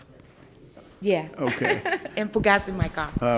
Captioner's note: laughs